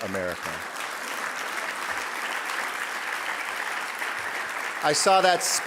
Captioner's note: audience applauding